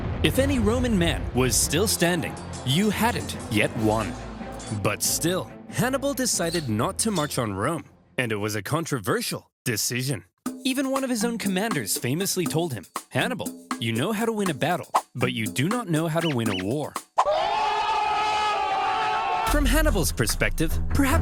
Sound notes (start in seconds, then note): 17.2 soldiers laughing